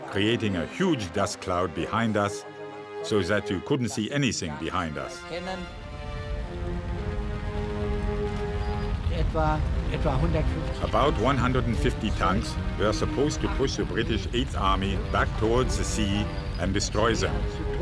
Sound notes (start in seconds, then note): 6.2 tank engines roaring; 9.4 speaking in foreign language